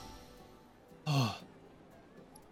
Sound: sigh of relief

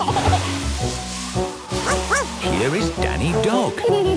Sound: giggling; barking; laughing

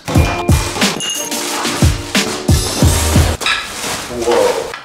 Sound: hammer banging loudly; cardboard ripping

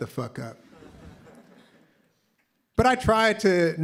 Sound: laughter

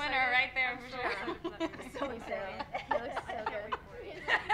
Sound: faint laughter

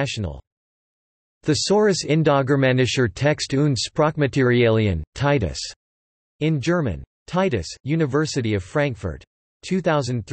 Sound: in German

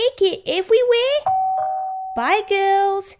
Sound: doorbell

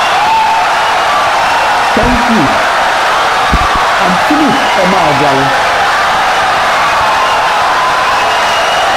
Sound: wild applause and cheering for 17 seconds

